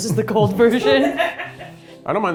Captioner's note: laughing; crew laughing